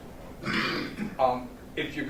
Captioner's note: clears throat